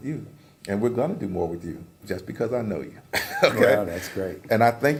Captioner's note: laugh